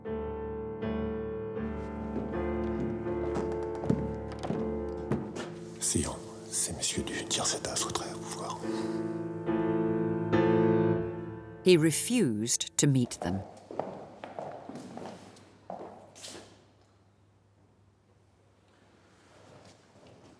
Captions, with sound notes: (tense music) (man speaking in French) (tense music) He refused to meet them. (footsteps clacking)